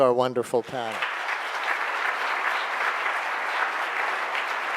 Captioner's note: audience applauding